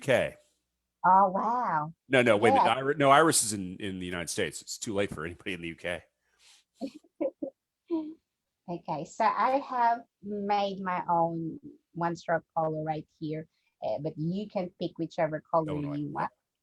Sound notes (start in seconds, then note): 6.8 chuckles